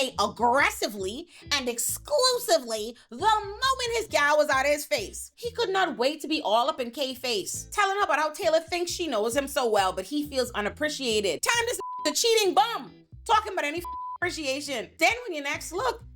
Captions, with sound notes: aggressively and exclusively the moment his gal was out of his face. He could not wait to be all up in K face. Telling her about how Taylor thinks she knows him so well, but he feels unappreciated. Time to (beep) the cheating bum. Talking about any (beep) appreciation. Then when your next look,